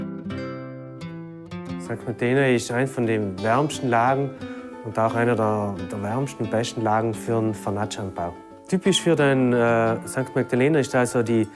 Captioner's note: speaking German